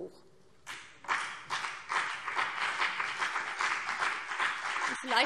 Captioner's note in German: Beifall BÜNDNIS 90/DIE GRÜNEN und vereinzelt CDU